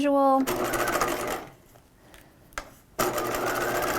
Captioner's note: machine whirring